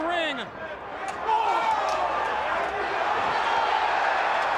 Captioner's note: crowd cheering